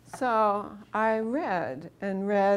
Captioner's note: none